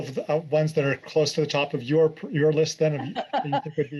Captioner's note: laughter